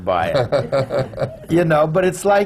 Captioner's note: laughs